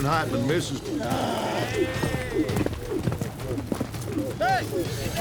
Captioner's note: rope swirling, whooshing